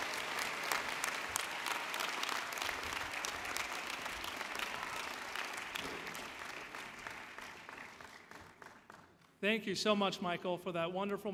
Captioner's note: cheers and Applause